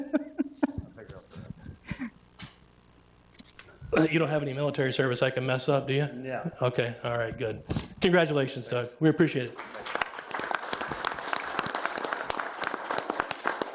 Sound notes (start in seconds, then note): 0.0 laughing; 9.4 attendees applauding